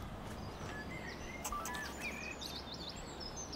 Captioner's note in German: Kamera piepst